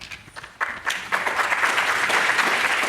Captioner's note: applause